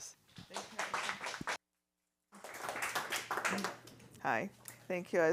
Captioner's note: applause